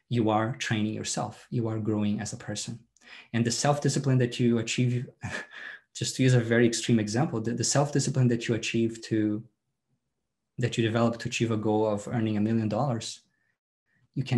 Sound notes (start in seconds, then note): 5.3 laughs